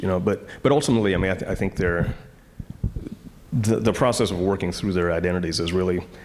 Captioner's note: none